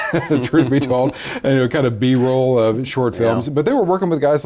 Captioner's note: both laugh